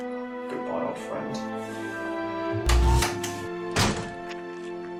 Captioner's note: tardis door closes; switches power back on